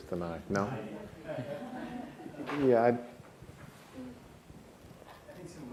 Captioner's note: audience chatter